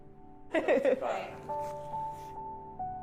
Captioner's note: Gypsy laughing; somber music